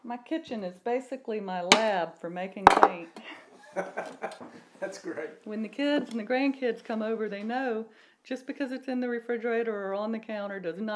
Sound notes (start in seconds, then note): 3.2 laughs